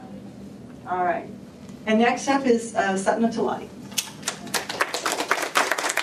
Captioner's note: applause